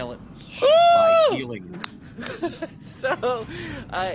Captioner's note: Cornette laughs